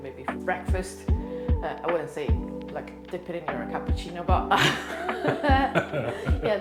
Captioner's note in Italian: ridendo